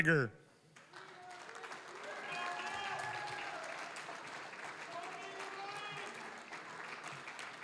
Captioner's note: applause, cheering; applause